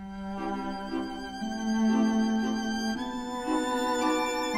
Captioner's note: none